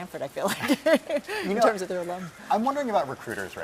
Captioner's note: laugh